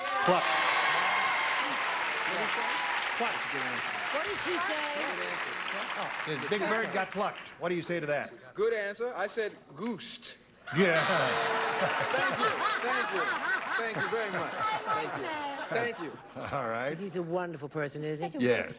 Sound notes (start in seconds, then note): 1.2 cheering and clapping; 11.5 laughter